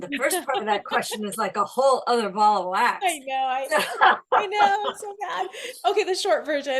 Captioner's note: laughter